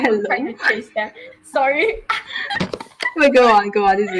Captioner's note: laughing; laughs